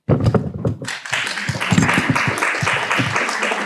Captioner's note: applause